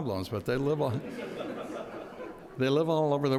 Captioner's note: audience laughs